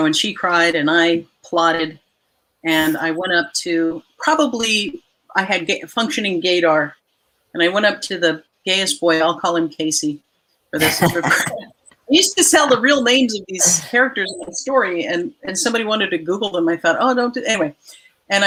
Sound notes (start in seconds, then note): 10.8 all laughing